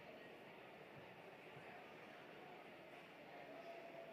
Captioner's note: applause